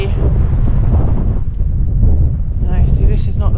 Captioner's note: wind